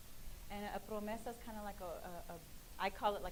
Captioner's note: speaking in foreign language